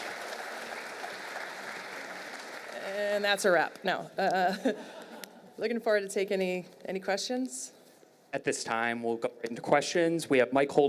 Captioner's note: applause